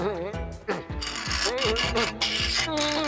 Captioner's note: pipe ratcheting